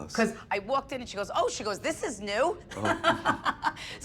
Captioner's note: laughs